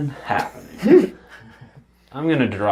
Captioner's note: all laugh